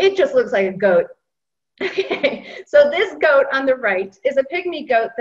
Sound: laughter

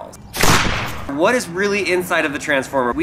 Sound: explosion

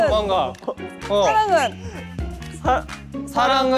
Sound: gasps

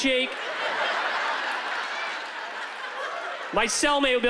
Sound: laughter

